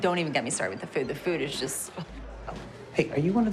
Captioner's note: scoffs